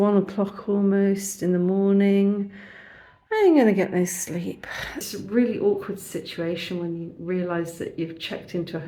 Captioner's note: sigh